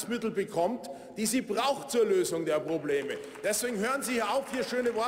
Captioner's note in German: Beifall beim BÜNDNIS 90/DIE GRÜNEN